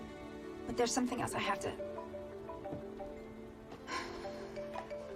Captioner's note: phone ringing